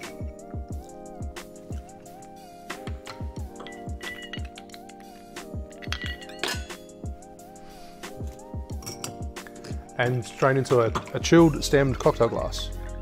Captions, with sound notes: (clanging) And drain into a chilled stemmed cocktail glass.